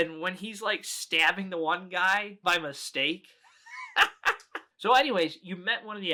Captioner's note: laughs